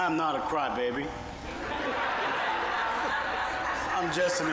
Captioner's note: audience laughing